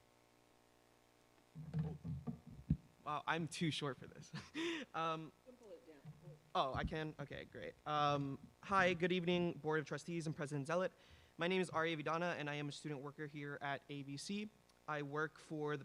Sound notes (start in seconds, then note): 4.3 laughter